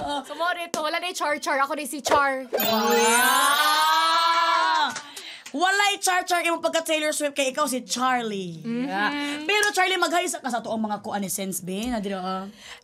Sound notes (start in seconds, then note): 2.6 both exclaim